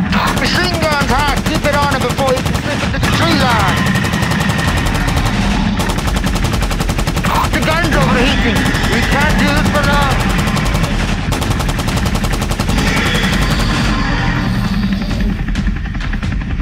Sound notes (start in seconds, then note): 4.3 machine guns firing